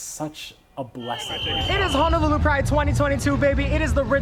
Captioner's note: whistle blows